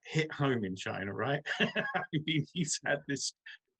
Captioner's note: laughs